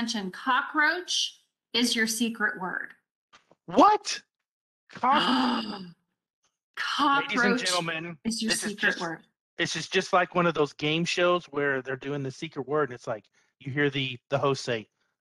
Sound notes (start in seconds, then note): 5.8 gasps